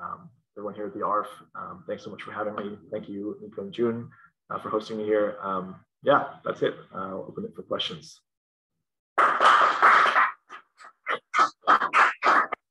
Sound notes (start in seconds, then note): 9.1 applause